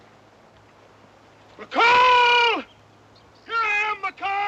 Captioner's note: shouting